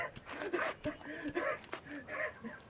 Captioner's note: lighter igniting